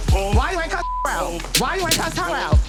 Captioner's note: continues mumbling